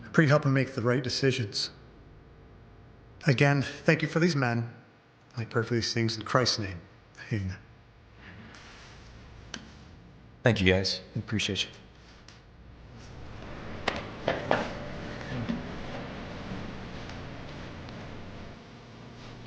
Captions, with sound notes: I pray you help him make the right decisions. Again, thank you for these men. I pray for these things in Christ's name. Amen. - Thank you guys, we appreciate you. (gentle music) (feet shuffling)